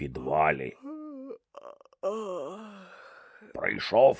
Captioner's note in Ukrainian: зіває